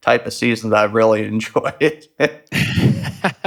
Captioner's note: laughs